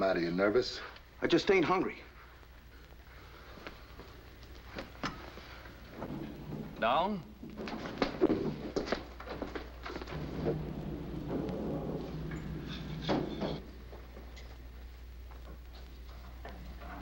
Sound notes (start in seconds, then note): 6.0 voiceover